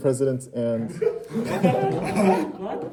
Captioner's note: murmuring